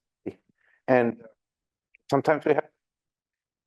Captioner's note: audio dropout